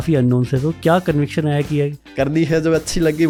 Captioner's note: speaking hindi